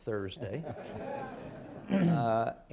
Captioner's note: laughter